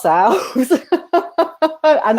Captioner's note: laughter